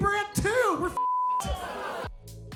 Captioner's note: beep; uptempo music